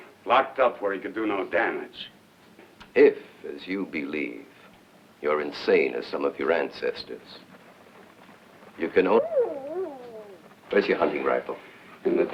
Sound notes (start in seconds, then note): 9.0 wolf howling